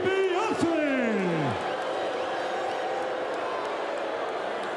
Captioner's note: audience booing